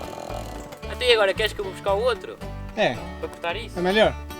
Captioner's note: chainsaw